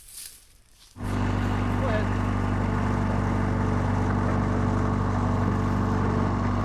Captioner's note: trench engine running